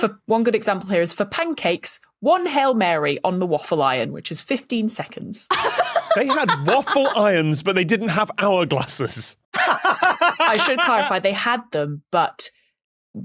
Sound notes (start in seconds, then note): 5.5 laughs heartily; 9.5 laughs uproariously